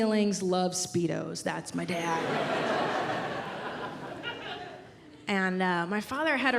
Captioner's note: audience laughs